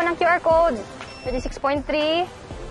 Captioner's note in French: scanner beeps